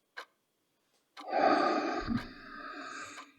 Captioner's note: deep breath